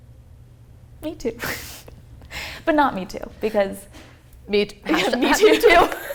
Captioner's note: laughter